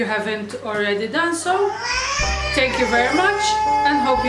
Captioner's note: child crying